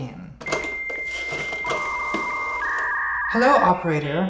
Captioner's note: dial-up modem chirping